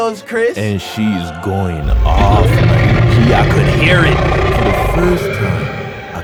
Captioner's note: roaring